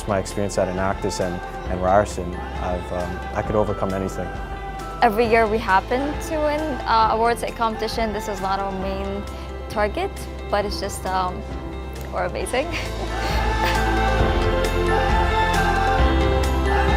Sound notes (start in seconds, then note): 12.6 laughs